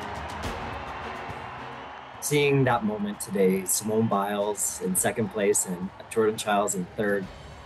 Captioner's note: cheers and Applause